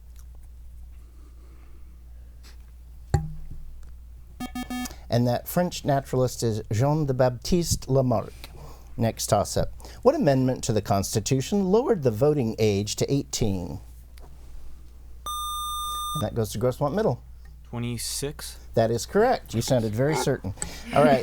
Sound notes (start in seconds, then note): 4.0 bell; 15.2 buzzer